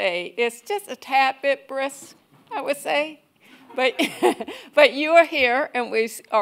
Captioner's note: laughs